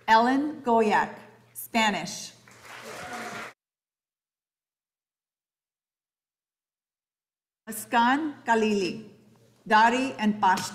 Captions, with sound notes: Ellen Goyak, Spanish. (audience applauding) Escon Calie, Dari and Pashto.